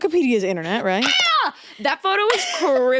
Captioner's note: Vic screaming